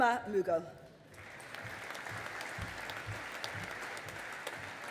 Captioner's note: audience applauding